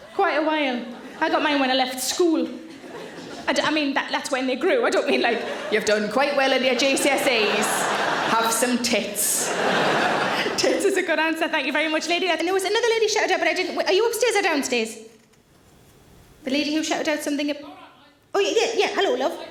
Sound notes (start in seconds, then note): 9.5 audience laughing